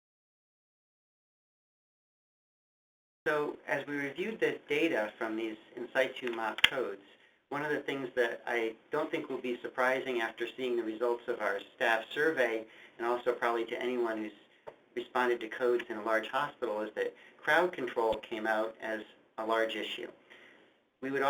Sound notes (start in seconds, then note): 3.5 voiceover